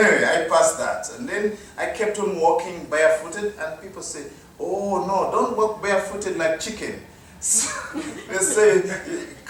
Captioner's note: laughter